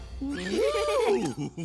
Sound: giggling

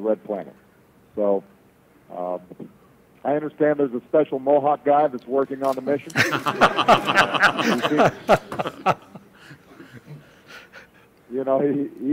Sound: laughter

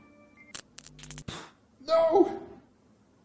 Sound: fizzling

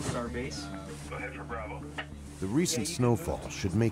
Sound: voiceover

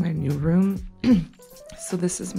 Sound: throat clears

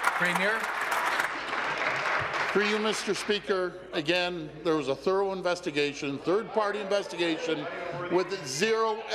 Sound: applause

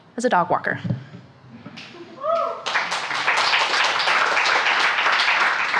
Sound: audience cheers and applauds

